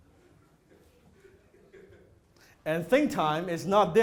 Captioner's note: audience laughter